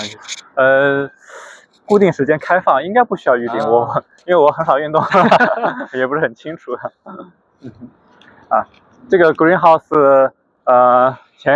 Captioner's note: laughs